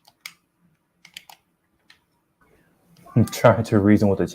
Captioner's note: clicking